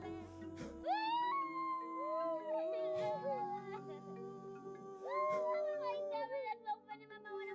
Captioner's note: grieving sarcastically